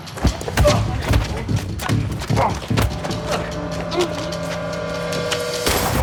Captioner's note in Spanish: Golpes; Disparos